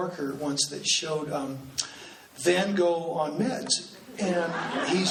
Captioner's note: laughing